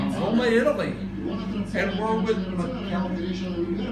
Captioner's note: talks under breath